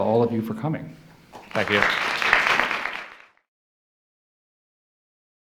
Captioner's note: audience applauds